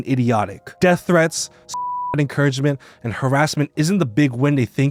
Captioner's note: beeps